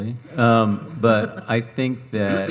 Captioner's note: audience chuckling